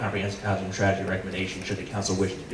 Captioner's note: speaking faintly